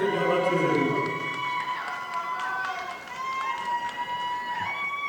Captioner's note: audience applauding